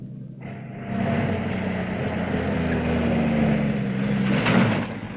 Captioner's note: car engine revving